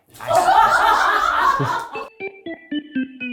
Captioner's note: crew belches; quirky music